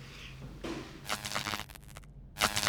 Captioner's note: short circuit buzz